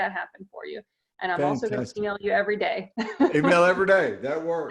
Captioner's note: laughs